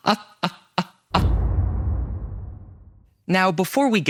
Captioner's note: cinematic boom